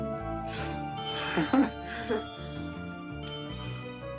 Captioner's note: both chuckling